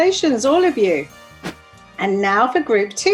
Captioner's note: page whooshes